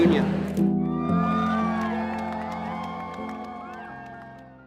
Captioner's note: crowd cheers